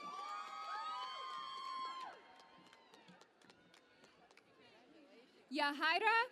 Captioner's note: cheering and Applause